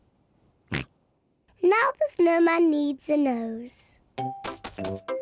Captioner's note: snorts